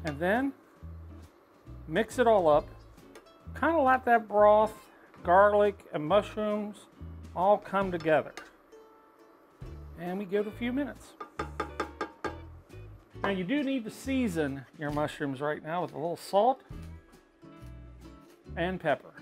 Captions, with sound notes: And then mix it all up. Kind of lot that broth, garlic and mushrooms all come together. And we give a few minutes. (spoon slams) And you do need to season your mushrooms right now with a little salt and pepper.